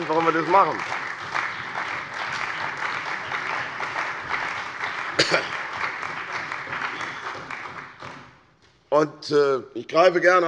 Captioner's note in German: Beifall bei der CDU und dem BÜNDNIS 90/DIE GRÜNEN